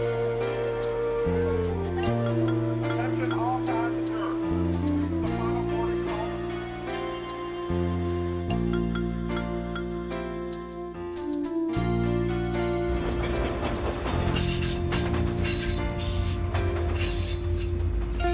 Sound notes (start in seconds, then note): 2.6 soft music continues; 8.8 soft music continues; 12.8 wheels whir